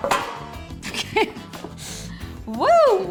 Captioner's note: laughs